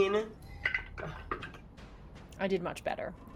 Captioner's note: dice rolls